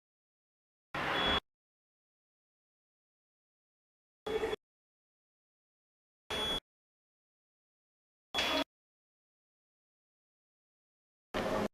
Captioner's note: hospital ward noise jolts on and off